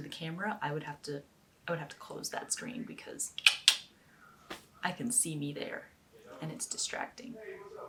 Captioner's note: tongue click